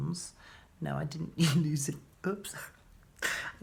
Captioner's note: laughing